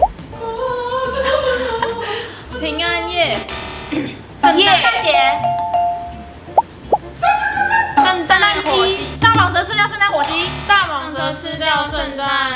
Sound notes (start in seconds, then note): 6.8 making clucking sound effect of chicken